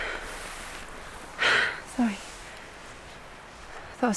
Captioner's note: deep breath